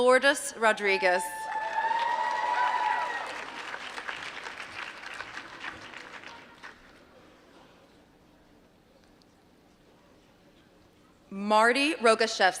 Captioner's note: applause